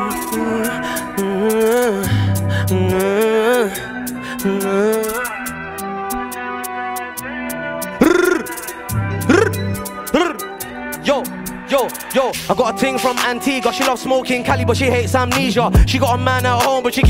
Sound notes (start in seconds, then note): 0.2 mouth humming; 8.0 tongue rolling